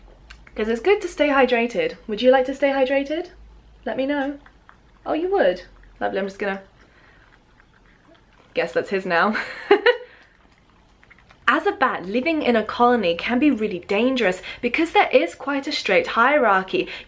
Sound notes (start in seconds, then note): 9.3 laugh